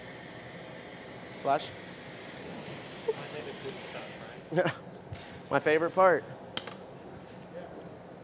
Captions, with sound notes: Flash. (Laughter) My favorite part.